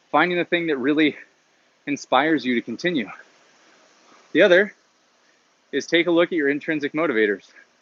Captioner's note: none